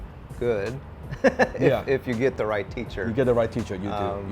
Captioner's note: laughs